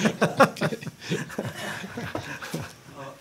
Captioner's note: laughter